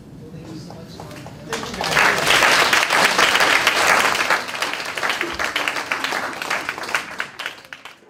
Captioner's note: applause